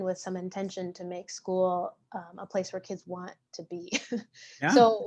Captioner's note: chuckles